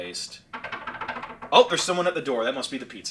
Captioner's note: knocking